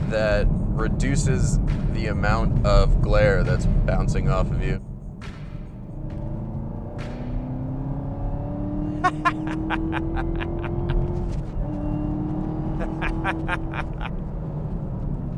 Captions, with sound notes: that reduces the amount of glare that's bouncing off of you. (car engine roaring) (laughs)